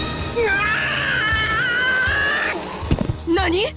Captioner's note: pained cry